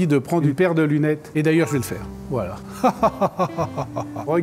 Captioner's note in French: Rires